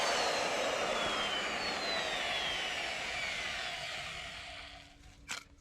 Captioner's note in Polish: Aplauz